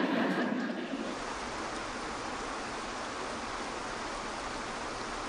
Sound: audience chuckling; water pouring

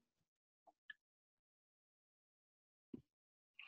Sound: pause

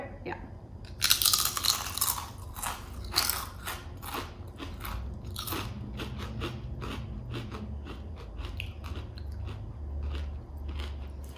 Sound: crunching

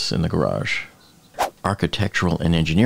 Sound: air whooshing

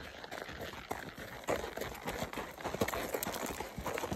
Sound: clip-clop clip-clop clip-clop clip-clop

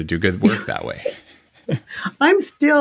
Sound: laugh

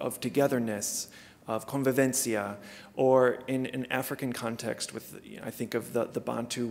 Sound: non-english speech

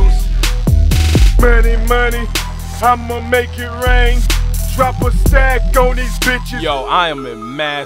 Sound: both men rapping; second man rapping; Jay talking

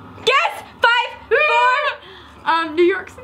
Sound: trills

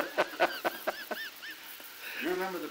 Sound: laughter

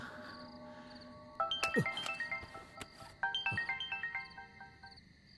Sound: phone rings

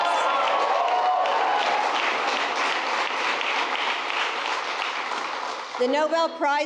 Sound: applause

